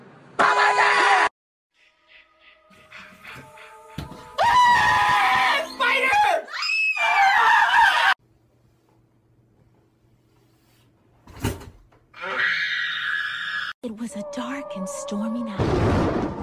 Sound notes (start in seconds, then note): 6.0 she screams; 6.9 he screams; 7.2 they scream; 12.1 screams; 15.5 thunder crashes